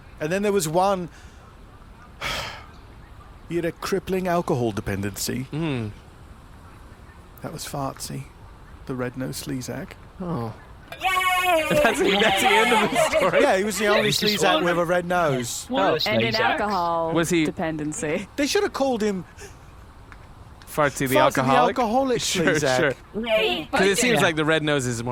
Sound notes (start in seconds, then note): 2.6 sighs; 11.0 cheering